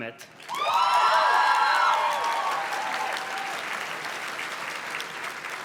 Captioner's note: audience cheers and claps